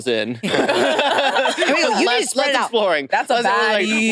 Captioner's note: participants laughing